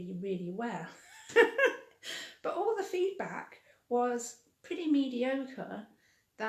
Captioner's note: laughing